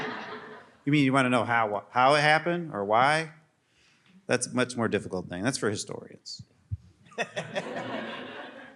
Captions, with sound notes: You mean you want to know how it happened or why? That's a much more difficult thing. That's for historians. [laughter]